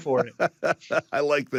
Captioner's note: laughs